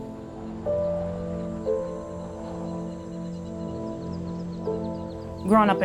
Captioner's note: light music; birds chirping